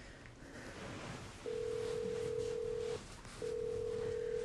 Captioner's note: line ringing